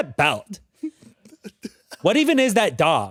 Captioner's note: laughs